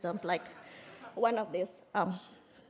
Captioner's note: audience laughing